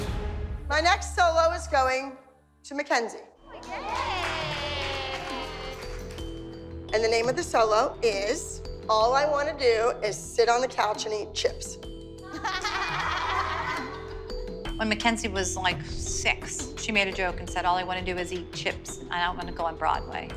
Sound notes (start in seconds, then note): 3.5 cheering; 12.2 laughter